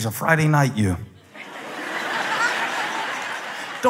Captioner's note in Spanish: Risas